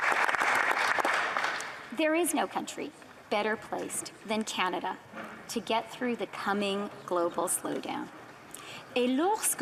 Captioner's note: applause